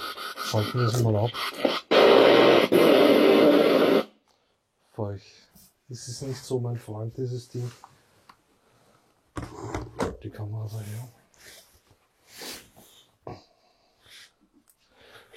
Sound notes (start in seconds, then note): 10.9 silence in the background